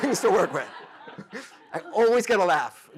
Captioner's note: laughter